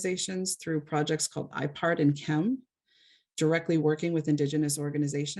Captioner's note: speaks foreign